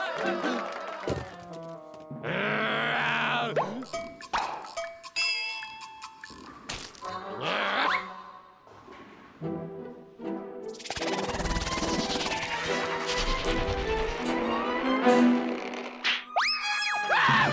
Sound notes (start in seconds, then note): 2.9 growls